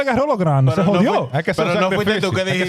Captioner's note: speaking In Foreign Language